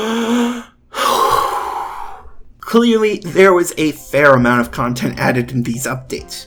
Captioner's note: breathe